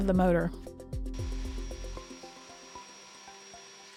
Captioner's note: vacuum whirring